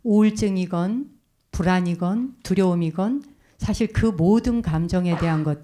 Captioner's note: speaking in Korean